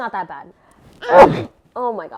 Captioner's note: aggressive sneeze